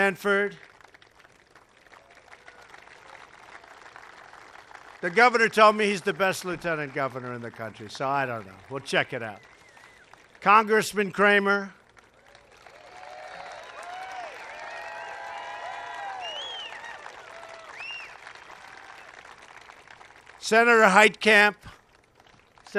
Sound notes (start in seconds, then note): 0.1 applause; 11.2 applause